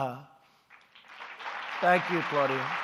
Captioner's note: applause